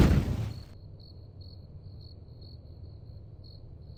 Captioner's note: logo whooshes; crickets chirp